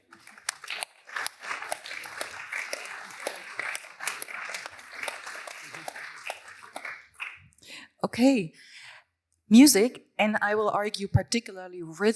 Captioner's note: applause